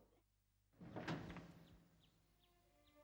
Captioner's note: door opens